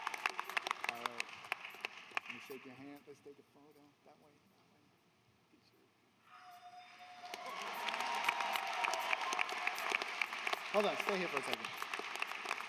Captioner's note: applause